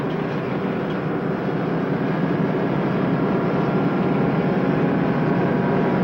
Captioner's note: truck engine whirring